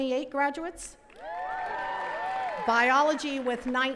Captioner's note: attendees cheering and clapping